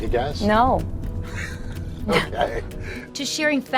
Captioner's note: laughing